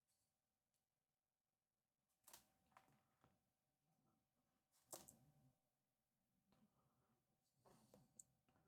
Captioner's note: silence